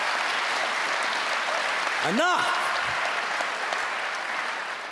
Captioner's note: clapping and cheering